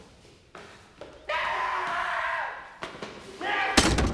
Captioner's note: screams